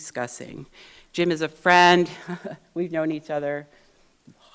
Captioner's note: laughs